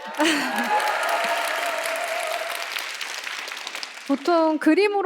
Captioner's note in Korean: 박수와 환호